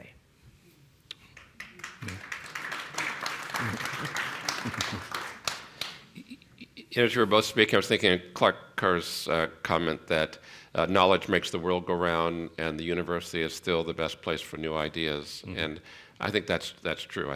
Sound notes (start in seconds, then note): 1.3 applause; 3.5 laughter